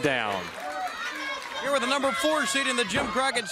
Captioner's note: crowd cheering